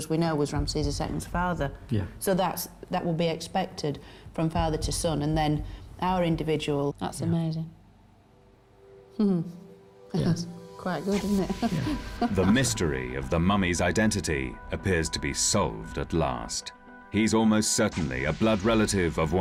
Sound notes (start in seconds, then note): 11.2 chuckles